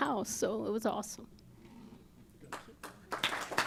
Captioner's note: applause